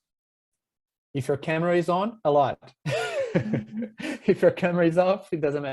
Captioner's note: laughs